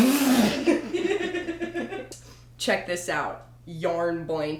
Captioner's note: laughter